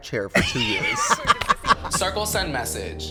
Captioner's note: Katya laughs